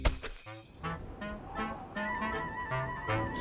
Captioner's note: wind whistles